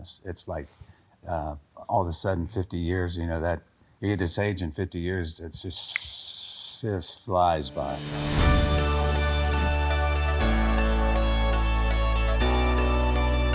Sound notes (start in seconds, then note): 5.9 snaps fingers; 7.6 inspirational music playing